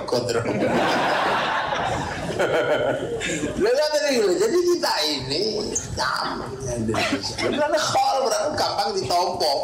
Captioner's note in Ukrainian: Сміється